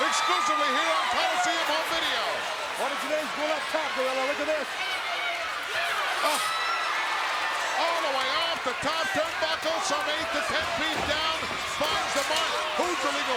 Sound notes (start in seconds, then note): 6.7 crowd cheers